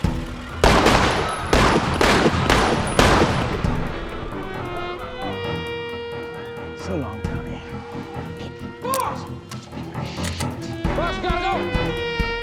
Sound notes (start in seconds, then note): 0.1 guns shooting; 8.8 gun clicking